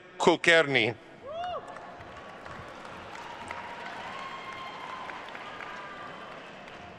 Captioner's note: attendees cheering and applauding